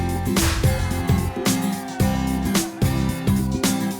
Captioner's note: cheers